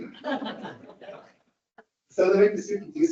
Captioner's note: audience laughs